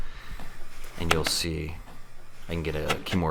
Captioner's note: gentle tapping